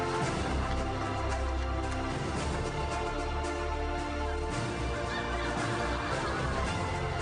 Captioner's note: applause continues; majestic music continues